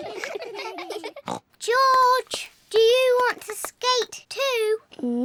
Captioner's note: all giggle; snorts